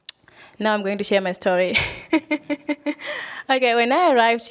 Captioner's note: laughs